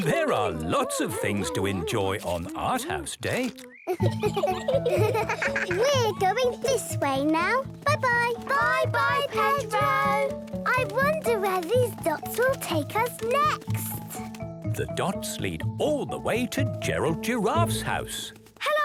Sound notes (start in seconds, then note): 3.8 laughter